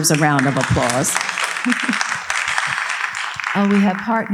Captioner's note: audience applauding